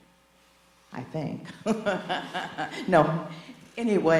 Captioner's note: laughs